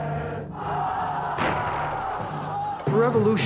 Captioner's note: crowd Yelling